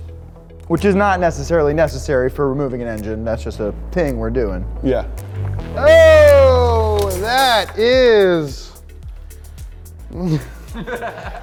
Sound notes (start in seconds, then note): 8.4 crew laughing